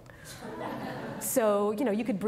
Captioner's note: audience laughing